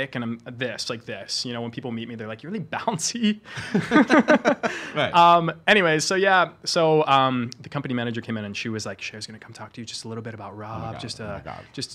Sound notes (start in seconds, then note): 3.5 laughing